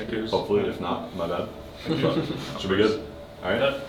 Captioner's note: laughing